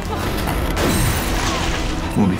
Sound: glass breaking

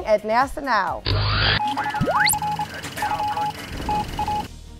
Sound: sound Effects

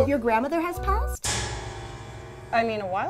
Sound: dramatic clash

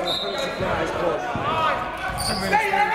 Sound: whistle

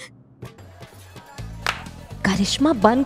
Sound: claps

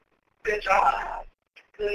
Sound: voiceover

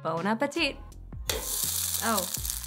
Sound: egg clinks

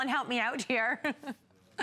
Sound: laughter

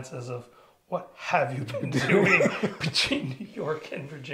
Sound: both laughing

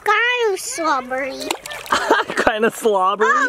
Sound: shell plunks

